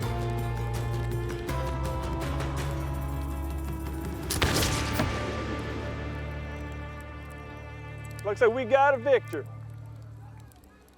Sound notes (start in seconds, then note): 4.3 gunshot